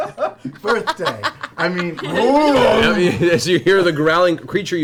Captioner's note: growls